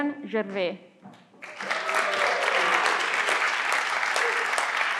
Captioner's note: everyone claps